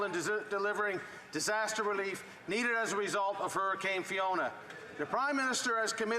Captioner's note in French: voix de l'interprète